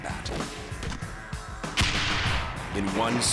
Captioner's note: gunfire